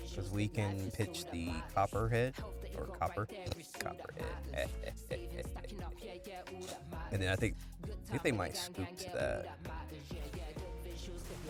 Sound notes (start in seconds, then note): 5.5 laugh